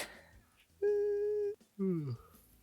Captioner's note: chuckle; yawn; whimper